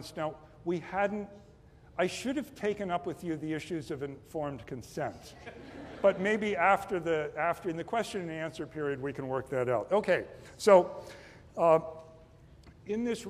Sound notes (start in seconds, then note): 5.3 laughter